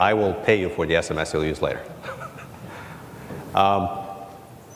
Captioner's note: laughs